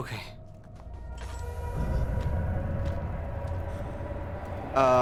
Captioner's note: primordial roar